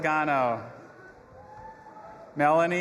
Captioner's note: audience applauding and cheering